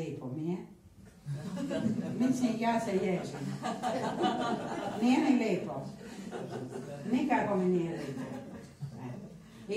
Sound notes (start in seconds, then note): 1.3 laughter